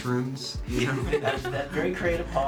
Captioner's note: laughing